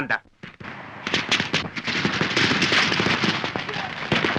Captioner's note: booming fireworks